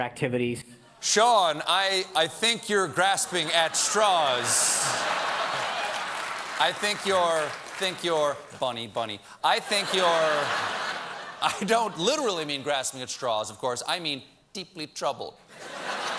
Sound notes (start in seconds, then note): 6.6 laughter; 15.5 laughter